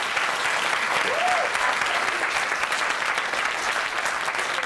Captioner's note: applause